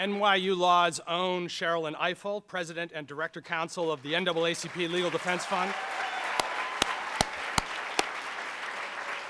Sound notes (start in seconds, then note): 6.0 applauding